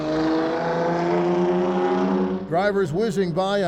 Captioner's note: car zooming